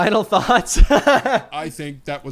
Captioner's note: laughs